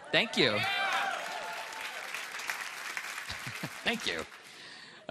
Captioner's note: applause